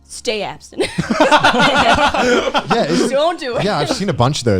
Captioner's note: laughing